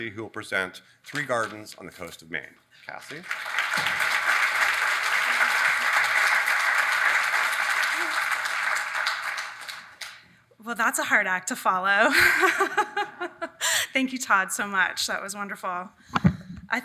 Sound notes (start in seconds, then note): 3.0 audience applauding